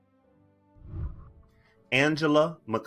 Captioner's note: whooshing